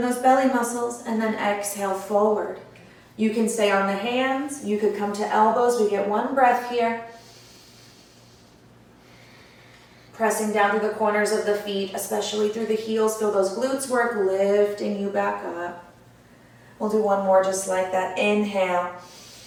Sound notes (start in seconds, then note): 7.1 audible breath